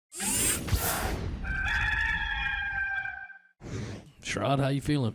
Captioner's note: mechanical whirring; rooster crowing